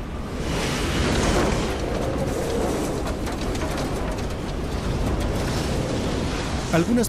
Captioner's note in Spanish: viento